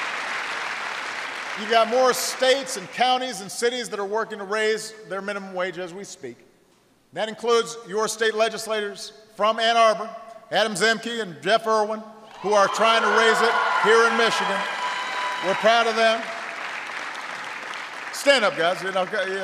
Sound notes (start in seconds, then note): 16.4 applause